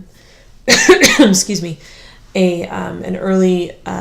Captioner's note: cough